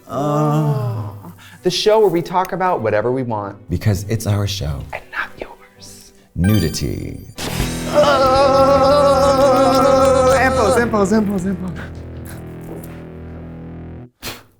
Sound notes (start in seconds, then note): 6.4 bell chimes; 7.4 rock riff; 7.7 both wailing; 14.4 Katya blows